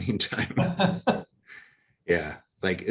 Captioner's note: laugh